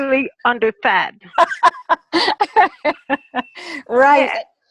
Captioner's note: laughter